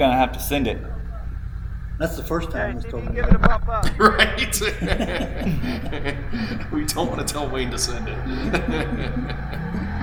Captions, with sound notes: you're gonna have to send it. That's the first time I was told that. Okay, I didn't even give it a pop up. Right? (both laughing) We don't wanna tell Wayne to send it.